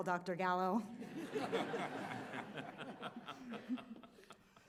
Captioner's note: audience laughs